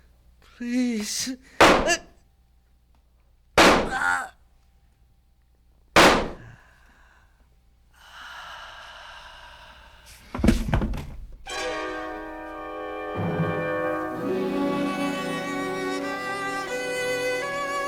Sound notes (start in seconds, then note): 3.1 gunshot; 3.8 groans; 5.9 gunshot; 8.0 gasps softly; 10.3 body thuds